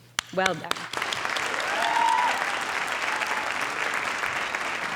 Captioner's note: audience applauding